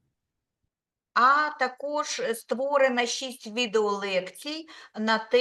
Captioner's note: speaking Ukrainian